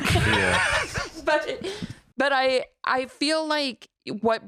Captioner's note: laughs